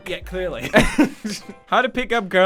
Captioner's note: both laugh